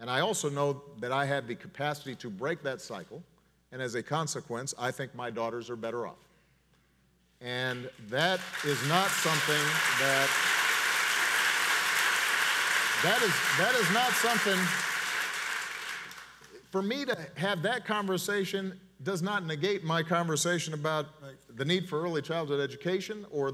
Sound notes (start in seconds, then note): 10.1 audience applauds